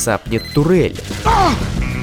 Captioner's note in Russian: кричит от боли